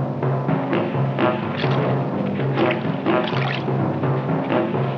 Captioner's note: puddle splashing